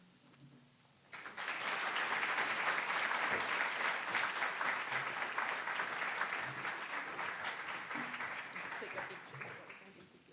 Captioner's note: applause